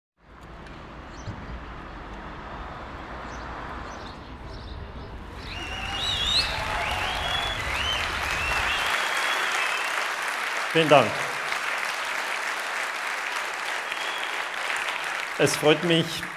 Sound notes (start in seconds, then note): 5.3 applause